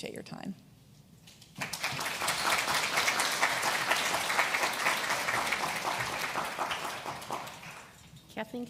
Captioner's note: applauds